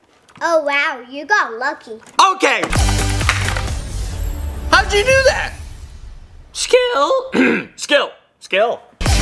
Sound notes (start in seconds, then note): 2.6 keyboard typing; 6.6 voice cracks; 7.2 clears throat